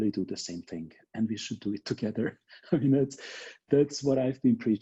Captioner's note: laughs